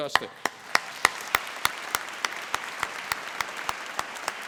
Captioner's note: applause